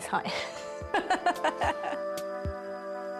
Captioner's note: laughs